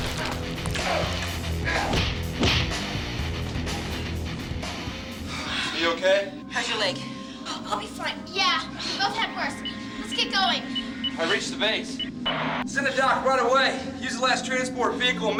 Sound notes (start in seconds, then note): 1.7 kicks thudding; 1.8 upbeat music